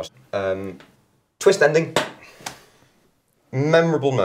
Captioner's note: marker tapping